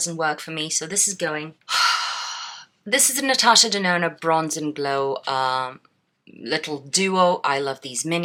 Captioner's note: sigh